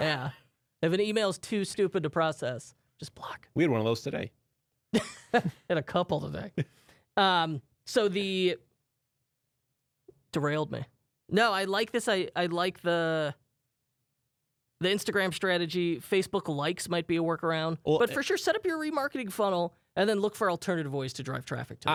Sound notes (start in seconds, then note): 5.3 laughs